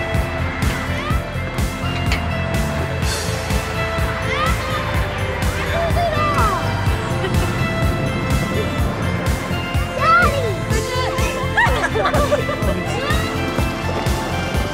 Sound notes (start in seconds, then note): 11.4 laughter